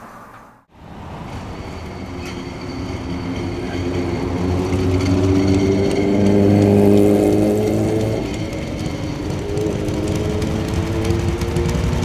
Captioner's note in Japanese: エンジン音